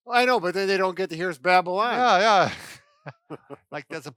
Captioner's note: laughs